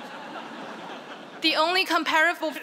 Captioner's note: laughter